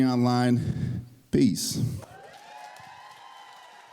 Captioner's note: applause